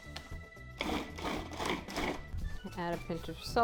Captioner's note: blender whirs